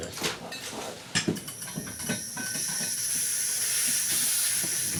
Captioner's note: oxygen tank hissing